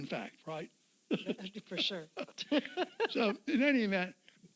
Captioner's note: laughs